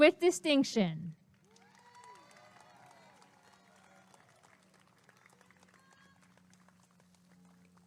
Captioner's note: applause and cheering